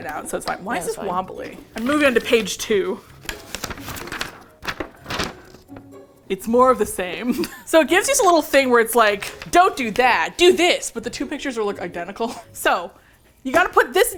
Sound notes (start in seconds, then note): 1.5 page flips; 7.2 laughs